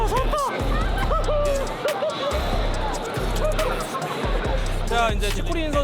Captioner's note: laugh of victory